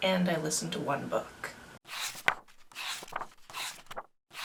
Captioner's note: pages turning